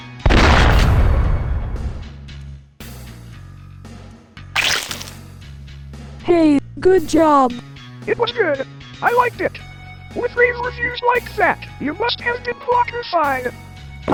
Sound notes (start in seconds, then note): 0.3 gunshot; 4.5 Squish